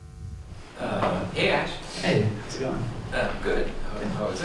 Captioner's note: voiceover